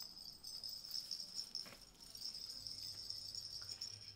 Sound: bells ringing

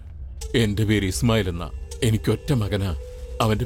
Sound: none

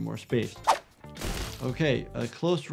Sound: gunshot fired

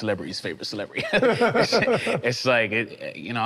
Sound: laughing amusingly

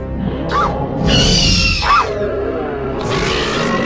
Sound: Velociraptor Sounds

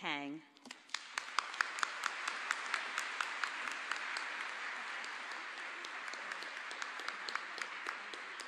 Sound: applause

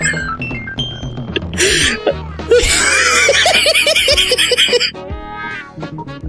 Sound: laughing; laughing

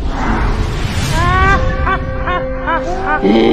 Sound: evil laugh

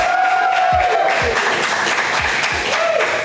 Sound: crowd cheering

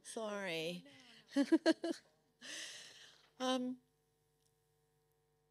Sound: laughing

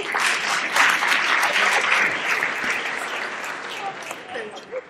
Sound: applause

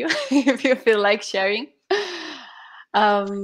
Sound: chuckles

